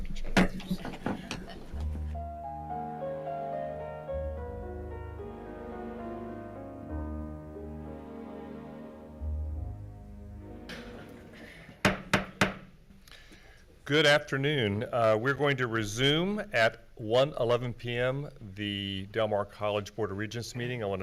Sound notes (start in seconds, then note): 0.2 gavel banging; 3.1 calm instrumental music; 11.7 gavel banging